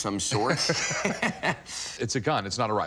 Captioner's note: laughter